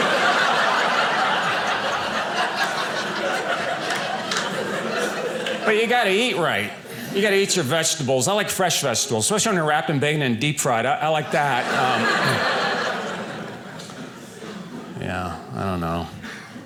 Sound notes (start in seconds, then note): 0.0 audience laughing; 11.1 audience laughing